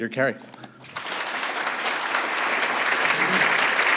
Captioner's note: applause